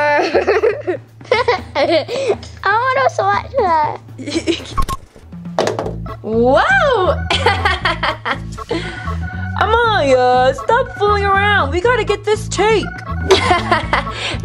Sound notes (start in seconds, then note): 0.0 laughs; 5.5 thuds; 7.0 laughs; 13.2 laughs